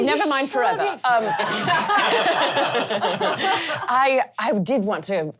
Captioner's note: laughing